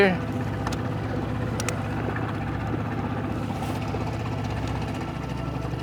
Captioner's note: motor burbling; gentle music